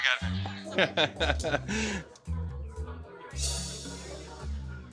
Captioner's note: laughs